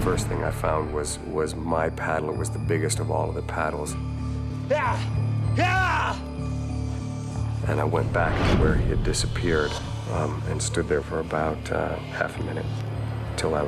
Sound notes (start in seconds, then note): 4.8 shouting